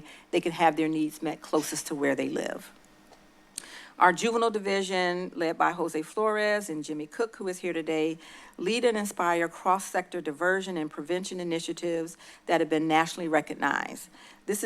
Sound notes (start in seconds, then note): 3.5 lip smack